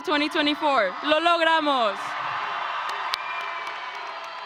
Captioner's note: speaker speaking in a foreign language; audience cheering